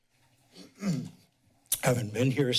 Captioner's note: clears throat